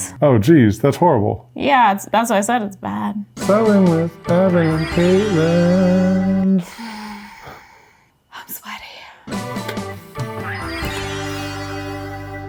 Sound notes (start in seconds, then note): 6.6 sighs; 9.3 upbeat music